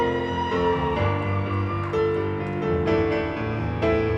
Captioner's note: audience cheering